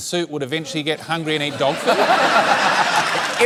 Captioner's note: laughter